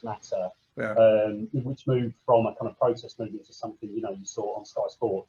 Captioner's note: voice muffling